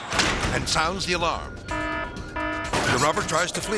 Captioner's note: alarm blaring